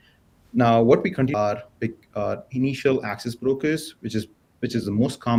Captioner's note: audio blurs